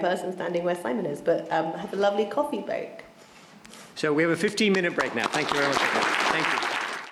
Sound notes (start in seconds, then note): 4.5 applause